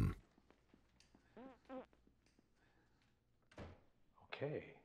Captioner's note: farting